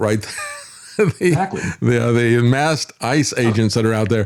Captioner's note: laughs